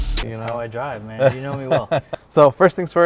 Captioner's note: laughs